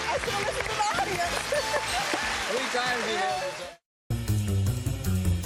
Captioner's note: chuckles